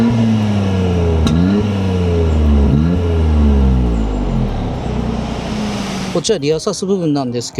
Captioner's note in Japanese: 排気音